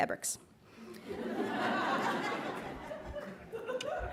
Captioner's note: laughs